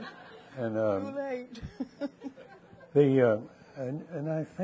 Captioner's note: people laughing; laughs